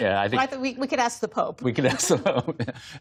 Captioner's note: laughter